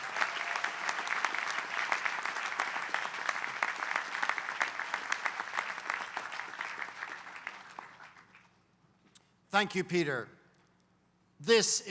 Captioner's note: applause